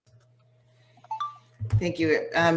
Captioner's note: beeping sound